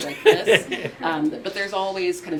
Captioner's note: laughter